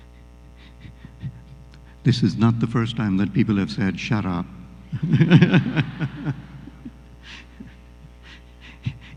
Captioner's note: laughter